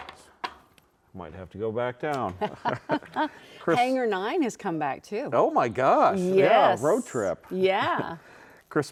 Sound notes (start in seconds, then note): 2.4 chuckles; 3.9 laughs